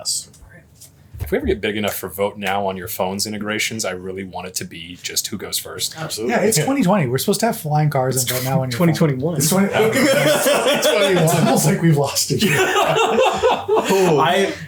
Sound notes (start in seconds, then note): 9.4 laughs